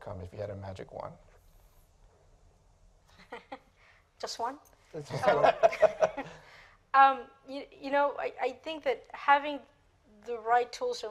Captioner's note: laughter